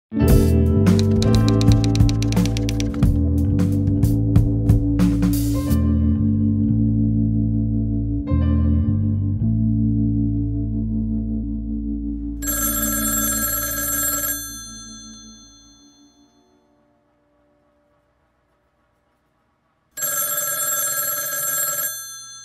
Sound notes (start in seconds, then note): 12.4 phone rings; 19.9 phone rings